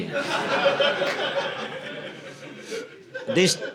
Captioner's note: audience laughing